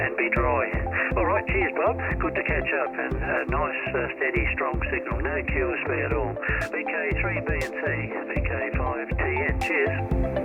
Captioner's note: sound of radio